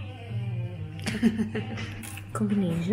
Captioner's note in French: rire